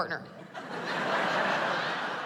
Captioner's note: laughter